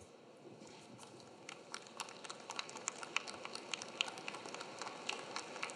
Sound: audience clapping

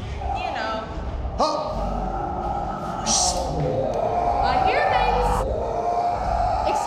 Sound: disembodied groaning

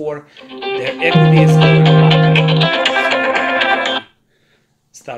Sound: cell phone ringing

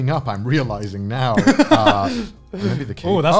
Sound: laughing

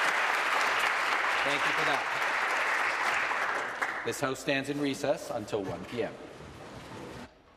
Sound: applause

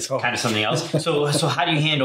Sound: laughs

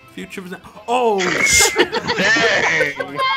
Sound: laughs

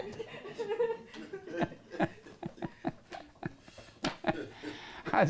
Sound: laughter

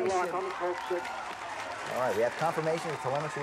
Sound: crowd cheering

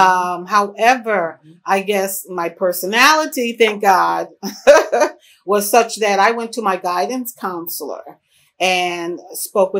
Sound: laughs

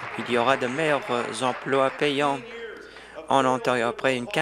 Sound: applause

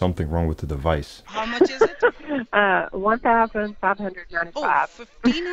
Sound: laughter

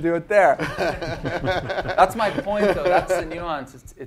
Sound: laugh

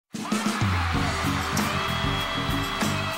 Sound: cheering and applause

